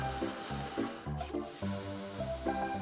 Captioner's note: squeaking noise